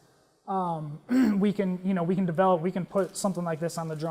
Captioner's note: cough